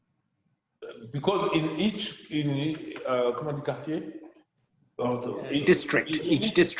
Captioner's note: speaking in foreign language